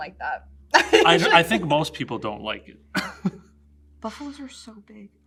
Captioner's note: laughs